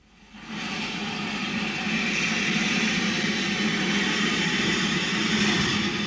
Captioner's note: train passing